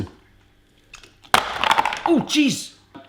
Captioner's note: popping sound